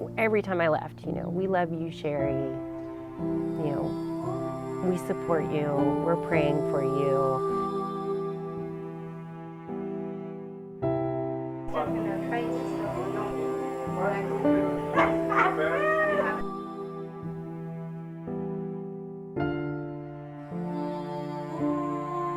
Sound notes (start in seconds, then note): 12.3 family and friends talking; 12.3 women laughing